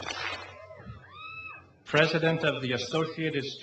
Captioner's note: clap